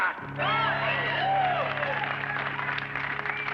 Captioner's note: cheers and applause